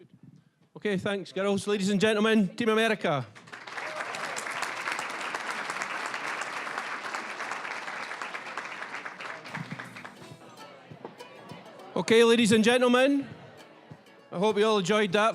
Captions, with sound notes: >> Okay, thanks, girls. Ladies and gentlemen, Team America. (applause) (playful folk music) Okay, ladies and gentlemen, I hope we all enjoyed that